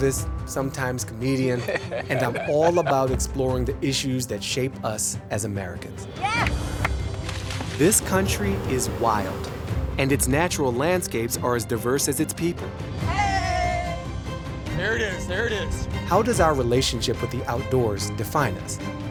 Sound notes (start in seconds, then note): 6.4 water splashing; 6.8 Baratunde claps